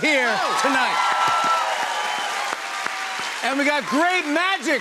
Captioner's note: cheers and applause